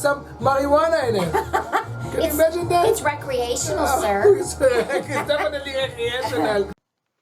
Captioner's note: laughs; little girl voice; laughs